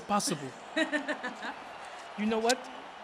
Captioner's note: Sasha laughs